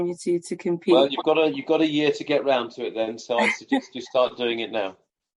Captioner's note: laughs